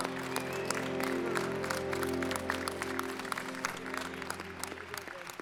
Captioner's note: applause